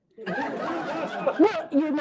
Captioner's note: laughter